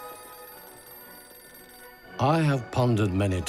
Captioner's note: phone ringing